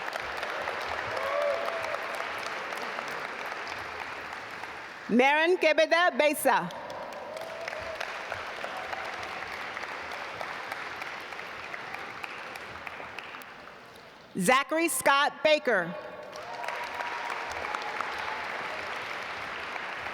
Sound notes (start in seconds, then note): 0.0 audience applaud; 6.6 audience applaud; 16.2 audience applaud